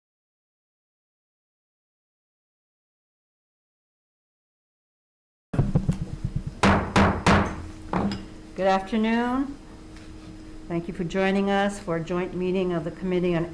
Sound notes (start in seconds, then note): 5.6 gavel pounding